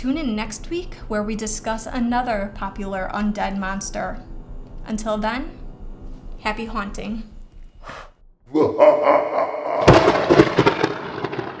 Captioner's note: scary laughter and thunder